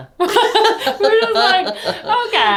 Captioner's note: laughing